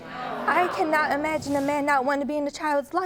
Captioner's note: audience clamoring